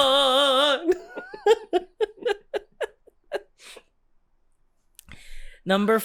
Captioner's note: giggles